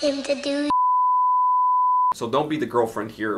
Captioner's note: tone beeps